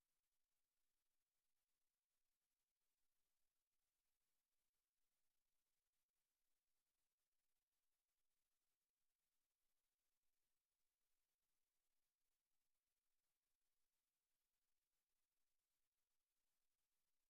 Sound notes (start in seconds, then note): none